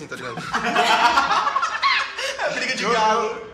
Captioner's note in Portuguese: Risadas